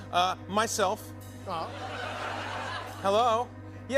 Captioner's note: laughter